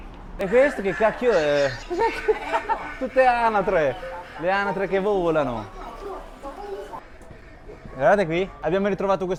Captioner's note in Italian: risate